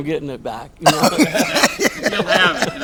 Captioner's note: all laughing